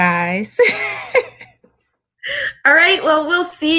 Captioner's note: laughing